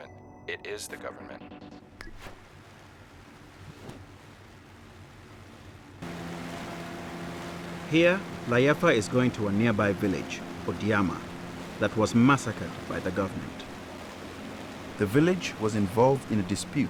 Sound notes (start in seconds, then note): 2.1 water lapping; 5.6 engine rumbling